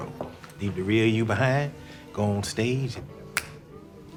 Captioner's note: snaps